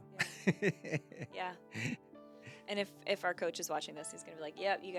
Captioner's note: laughs